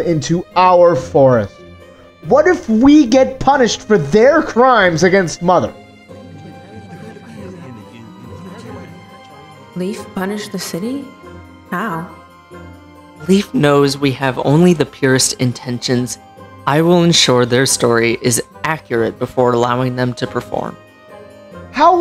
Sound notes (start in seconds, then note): 6.0 concerned Voices